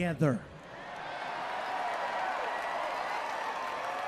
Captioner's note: audience cheers